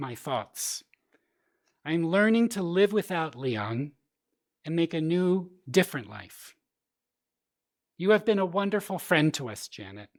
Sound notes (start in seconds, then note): none